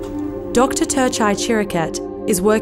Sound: voiceover

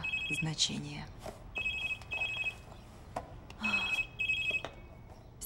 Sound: phone ringing

